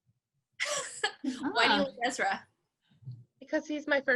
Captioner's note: laughs